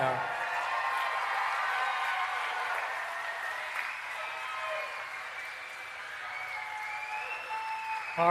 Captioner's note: applause and Cheering